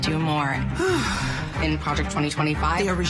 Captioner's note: sighs